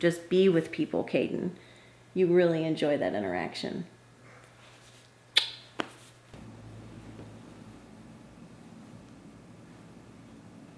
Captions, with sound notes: just be with people, Kayden, you really enjoy that interaction. (lips smacking)